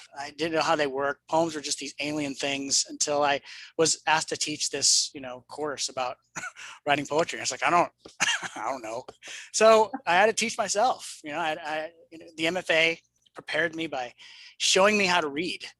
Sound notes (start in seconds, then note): 8.2 laughs; 8.2 chuckles